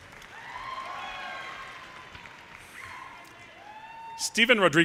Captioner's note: audience cheers and applause